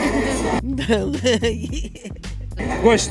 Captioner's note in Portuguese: risadas